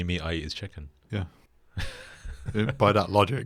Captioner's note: laughs